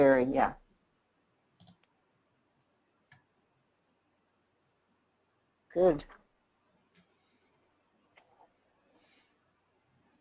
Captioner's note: silence